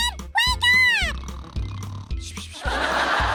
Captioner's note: Grandpa Lemon snoring; audience laughs